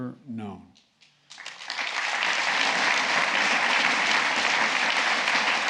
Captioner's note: applause